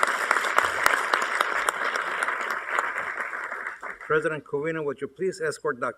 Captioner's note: applause